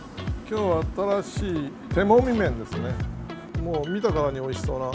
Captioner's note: upbeat music; speaking in Japanese